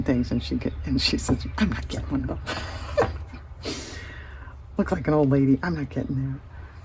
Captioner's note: laughter